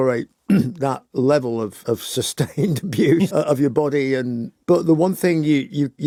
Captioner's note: laughs